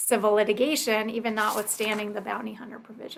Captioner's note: pages rustling